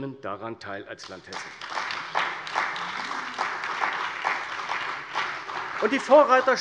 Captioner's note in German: Beifall bei der CDU und dem BÜNDNIS 90/DIE GRÜNEN